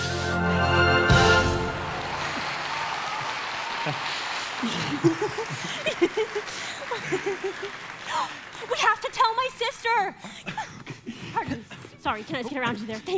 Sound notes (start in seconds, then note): 0.0 bold orchestral music; 2.0 audience applauding; 3.6 Anna and Hans laughing; 10.2 gasps